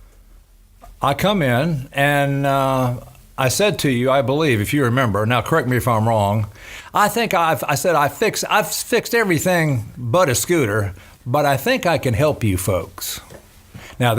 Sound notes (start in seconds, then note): none